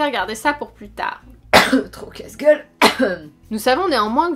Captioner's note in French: tousse